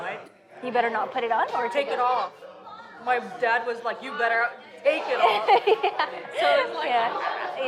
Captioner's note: laughs